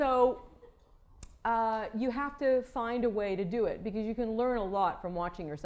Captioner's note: laughter